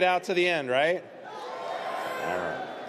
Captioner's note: audience cheers